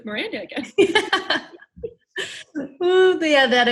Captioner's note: laughs